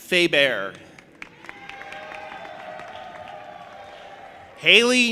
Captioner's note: audience applauding and cheering